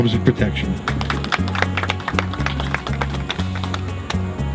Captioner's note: applause